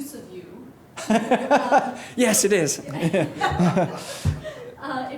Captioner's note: laughs